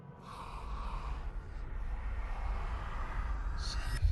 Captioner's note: echoing